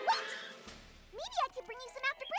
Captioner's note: screech!